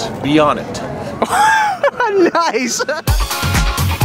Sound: laughter

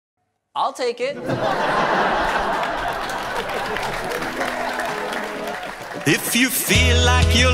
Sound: audience laughs and applauds

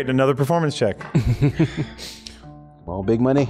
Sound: chuckles

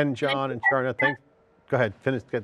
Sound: audio feedback

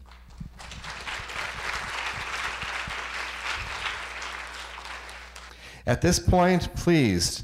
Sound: applause

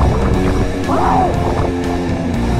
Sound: yells

